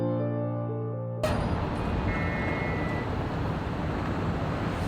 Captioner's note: elevator screeching